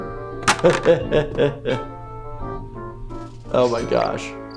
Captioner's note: laughing